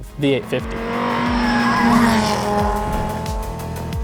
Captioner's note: engine buzzing